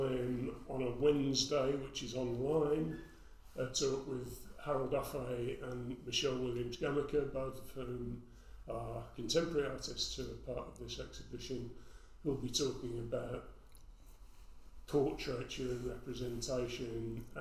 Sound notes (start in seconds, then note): none